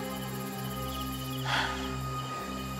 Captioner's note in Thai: เสียงถอนหายใจ